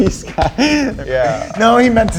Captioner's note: speaker laughing